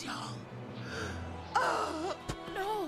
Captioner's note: gasps